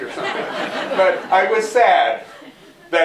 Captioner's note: laughter